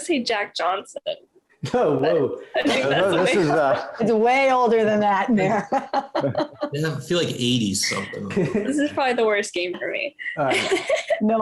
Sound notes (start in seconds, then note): 5.2 laughs